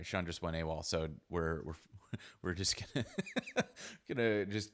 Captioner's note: laughs